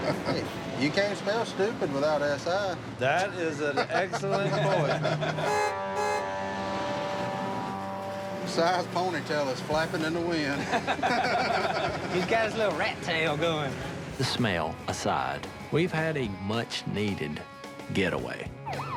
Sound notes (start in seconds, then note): 5.3 horn honks; 10.5 laughing